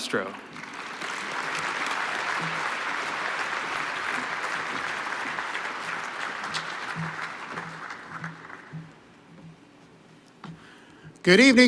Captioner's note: applause